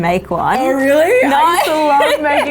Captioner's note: laughing